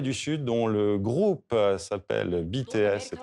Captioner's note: soundbite of archived recording